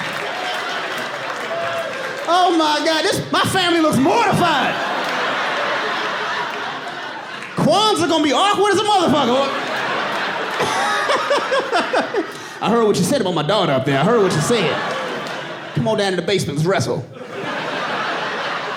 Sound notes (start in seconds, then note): 0.0 audience laughing; 5.6 audience laughs; 5.6 laughs; 13.9 audience laughing